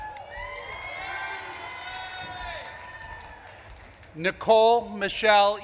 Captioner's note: audience claps and cheers